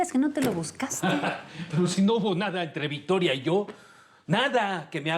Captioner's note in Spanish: risa socarrona de él